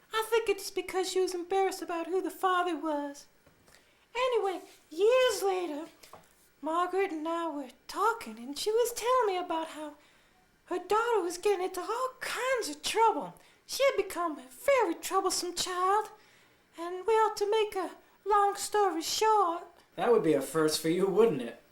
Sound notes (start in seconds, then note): none